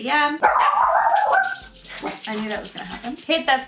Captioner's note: dog barking